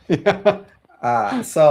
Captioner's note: laughs